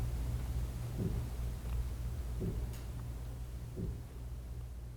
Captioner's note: heartbeat